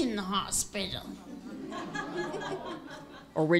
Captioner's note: laughter